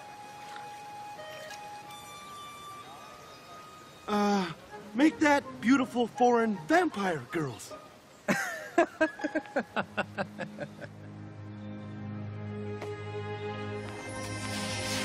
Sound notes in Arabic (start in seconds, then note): 8.2 يضحك